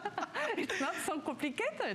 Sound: laughter

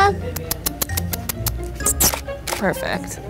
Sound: kissing teeth

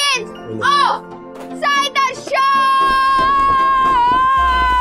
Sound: indistinct shouting

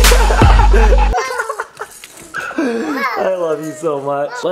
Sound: laughing

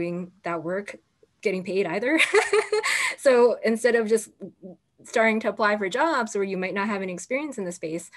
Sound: laughter

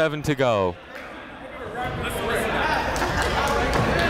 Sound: chatter

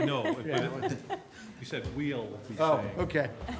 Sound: laughter

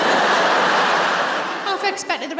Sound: laughter

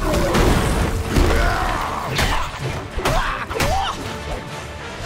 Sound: grunting

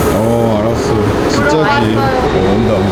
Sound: laughing

